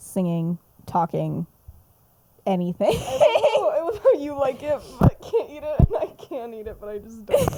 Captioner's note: laughs